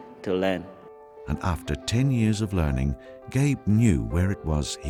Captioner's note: voiceover